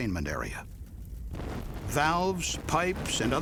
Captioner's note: sound of explosion